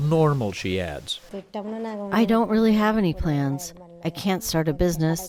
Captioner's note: through translator